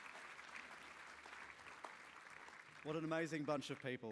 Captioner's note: applause